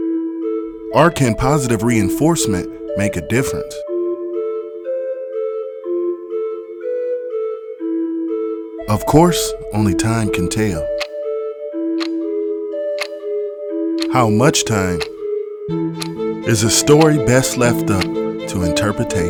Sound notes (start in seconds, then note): 3.8 upbeat music; 10.9 clock ticking